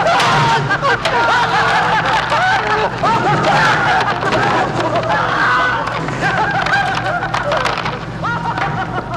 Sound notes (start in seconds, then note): 0.5 Lester cackling; 0.7 Tom screaming